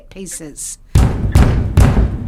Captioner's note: knocking